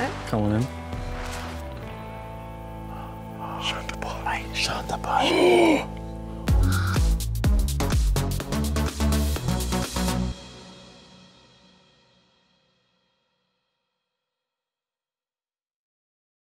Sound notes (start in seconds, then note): 3.3 whispers; 4.9 gasps